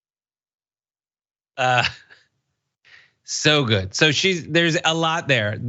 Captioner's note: laugh